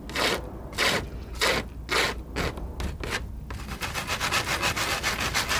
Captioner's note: scratching